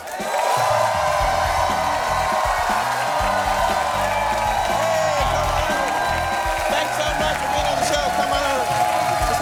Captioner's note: cheers and applause